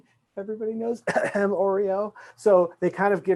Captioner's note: coughs